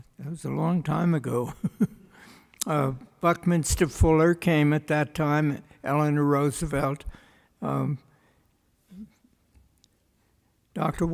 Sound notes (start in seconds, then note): 1.7 laughs